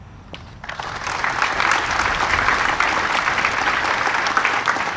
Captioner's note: audience applauding